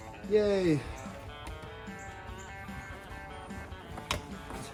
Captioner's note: tap tap